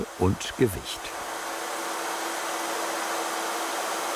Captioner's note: machine noise